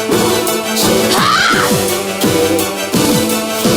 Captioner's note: roar